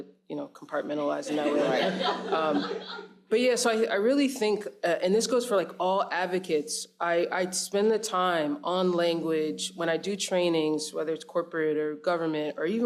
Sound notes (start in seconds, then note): 1.3 audience laughs